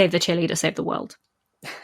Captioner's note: laughs